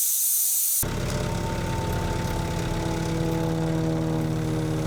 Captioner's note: skid-steer whirring